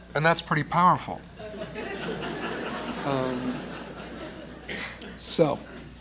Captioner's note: laughter